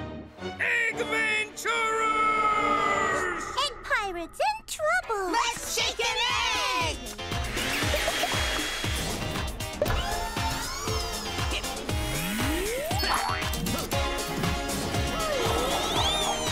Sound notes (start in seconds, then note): 2.9 gasps; 7.0 upbeat music; 9.3 whirring